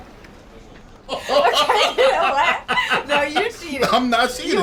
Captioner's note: laughing